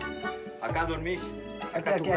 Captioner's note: Portuguese spoken audio